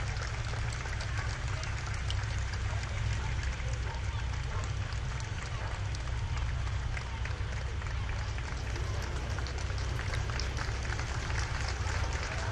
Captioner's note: applause; cheers